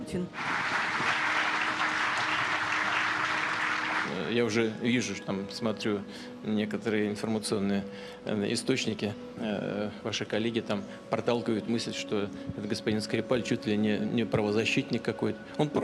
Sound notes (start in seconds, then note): 0.3 applauding; 0.6 speaking Russian